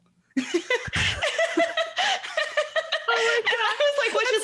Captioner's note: laughing